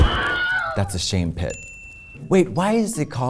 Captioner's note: man screaming; bell dings